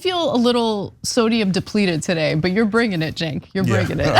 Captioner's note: laugh